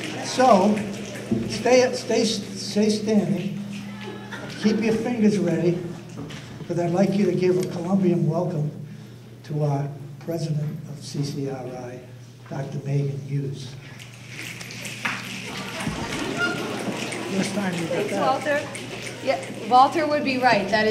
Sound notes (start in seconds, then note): 13.9 audience laughter; 14.4 crowd snaps fingers